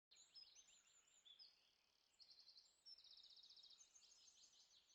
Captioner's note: birds chirping